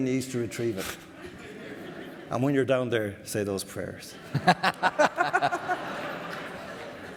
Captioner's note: more laughter